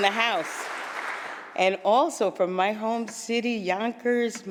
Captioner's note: applause